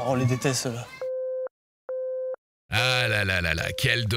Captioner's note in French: Tonalité de téléphone